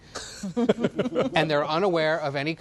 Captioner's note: laughter